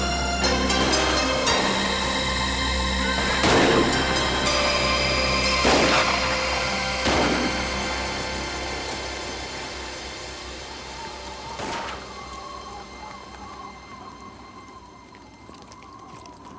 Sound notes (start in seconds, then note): 3.0 gun fires; 3.0 horse neighs; 5.4 guns fire; 10.7 wind whistles; 11.5 gun fires